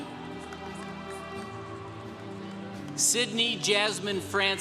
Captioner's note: congregation cheering